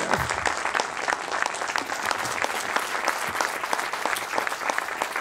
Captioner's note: audience applauding